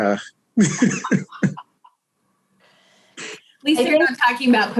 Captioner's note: all chuckles